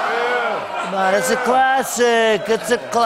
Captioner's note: audience oohs; As Trump